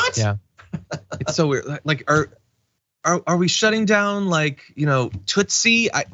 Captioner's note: laugh